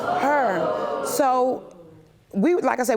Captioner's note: audience exclaiming